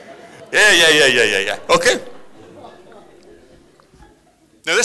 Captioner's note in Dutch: publiek lacht